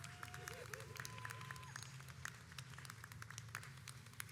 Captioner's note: audience applauds